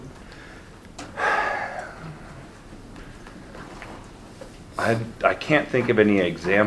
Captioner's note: instructor sighs heavily